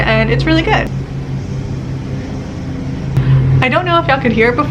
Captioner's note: lawn mower sounds intensify